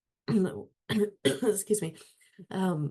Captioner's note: coughing